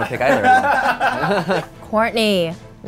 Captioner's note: all laughing